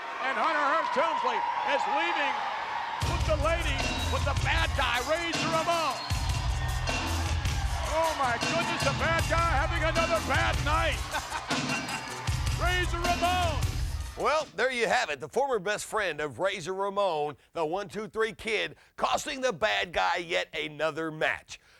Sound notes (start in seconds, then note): 6.1 upbeat music; 11.0 Jerry chuckling